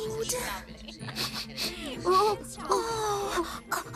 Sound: Alice Sniffing

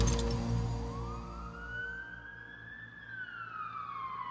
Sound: sirens sounding

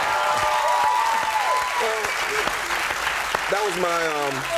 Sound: audience cheering

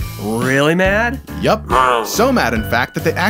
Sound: snarl

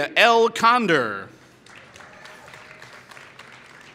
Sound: applause

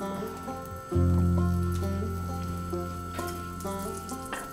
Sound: waffles Sizzling

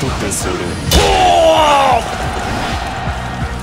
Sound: KO Scream

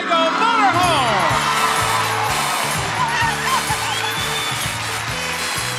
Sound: audience applauds

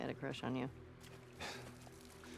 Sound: laugh

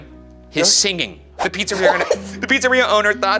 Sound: laughing

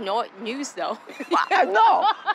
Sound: laughing

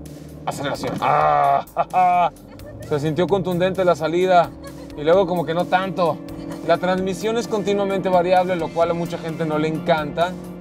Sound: grunts with satisfaction

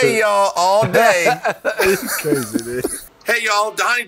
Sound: laughs

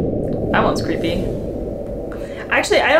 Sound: low steady pitch

